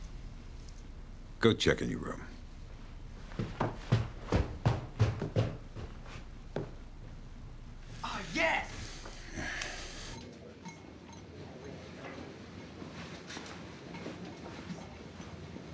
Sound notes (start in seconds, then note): 4.1 footsteps clomping; 10.7 people chattering